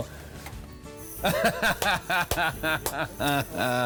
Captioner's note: man laughing